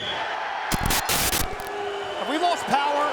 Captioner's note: spectators cheering; static crackling